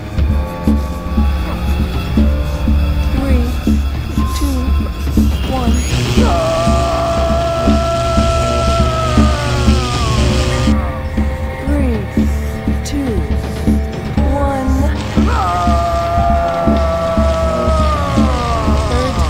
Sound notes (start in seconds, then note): 6.0 electric zapping; 6.2 Leonard groaning; 15.0 electric zapping; 15.2 Leonard groaning